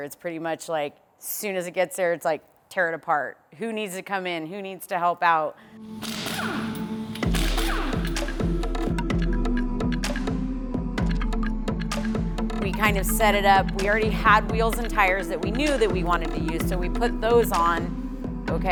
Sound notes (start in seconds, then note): 7.2 impact gun sound; 9.1 slow beat music